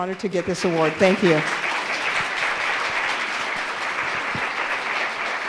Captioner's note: audience applauds